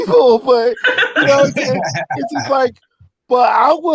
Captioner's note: laughing